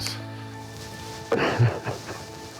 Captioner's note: crying